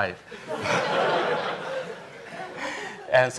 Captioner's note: laughter